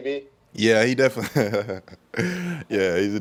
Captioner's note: laughs